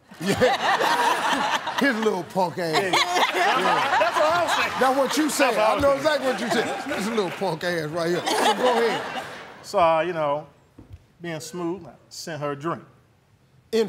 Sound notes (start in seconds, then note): 0.0 laughter